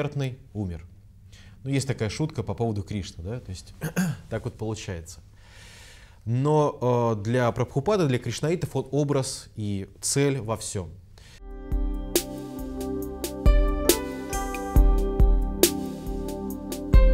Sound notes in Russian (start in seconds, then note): 3.8 прочищает горло